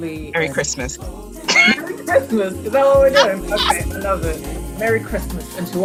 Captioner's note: laughs